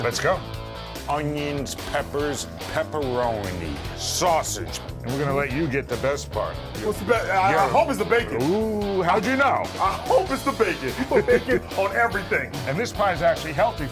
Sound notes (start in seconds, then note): 9.8 laughing